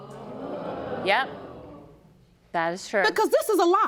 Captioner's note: audience gasps